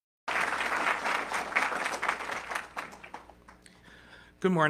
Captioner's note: audience clapping